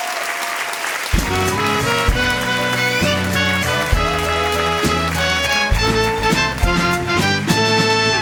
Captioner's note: audience applause